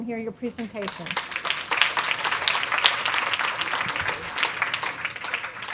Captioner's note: audience applauding